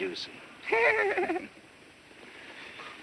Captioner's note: chuckles